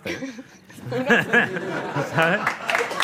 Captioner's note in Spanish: Risas